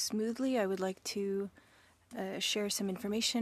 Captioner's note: speaking French